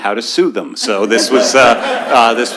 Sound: laughter

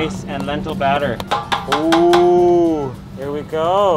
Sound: hand pounding

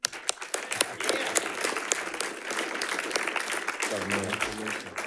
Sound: audience applauding

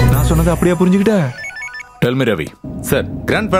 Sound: phone rings

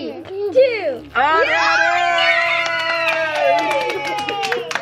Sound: all cheering

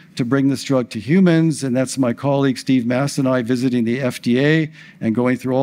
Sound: none

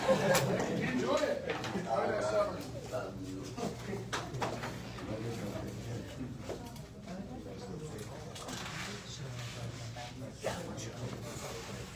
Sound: indistinct chatter

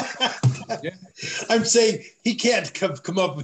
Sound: laughter

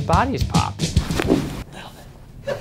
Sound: bones cracking

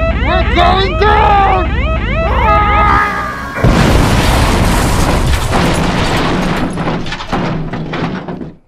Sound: crash sounds

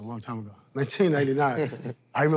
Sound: laughs

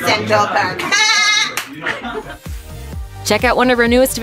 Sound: annoying laughter

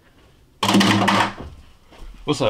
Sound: objects clatter on table

